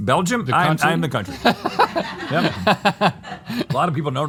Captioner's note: laughter